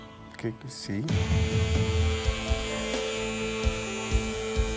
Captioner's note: razor humming